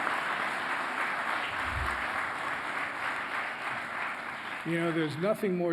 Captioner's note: applause